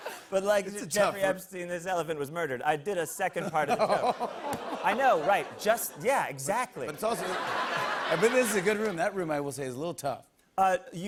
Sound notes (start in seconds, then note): 4.2 audience ohs